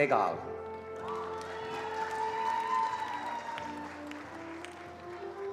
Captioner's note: attendees applauding